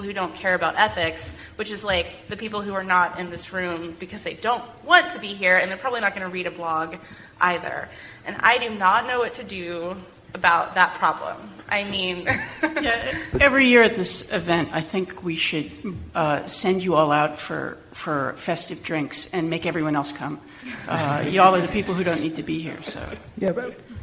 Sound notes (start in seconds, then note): 12.2 laughs